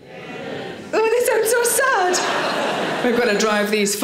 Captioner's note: audience laughing